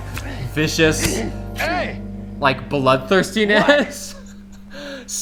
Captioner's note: laughs